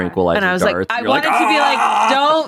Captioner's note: yells